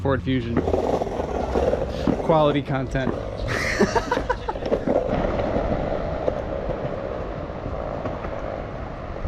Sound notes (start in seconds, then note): 6.9 haha